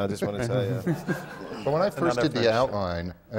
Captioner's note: laughter